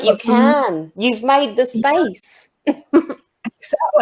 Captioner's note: chuckles